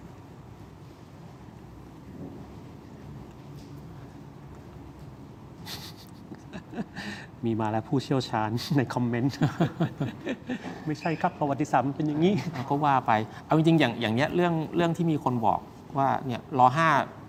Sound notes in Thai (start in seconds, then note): 9.8 เสียงหัวเราะ